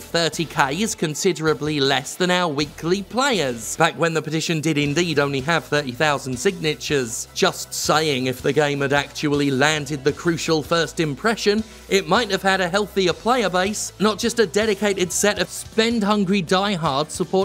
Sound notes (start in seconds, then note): none